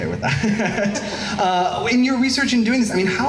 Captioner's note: laughs